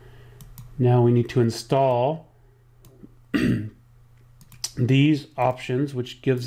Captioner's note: clears throat